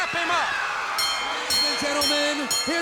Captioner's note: bell clanging